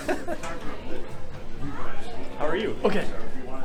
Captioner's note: laughs